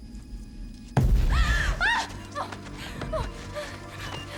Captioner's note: gasps, whimpering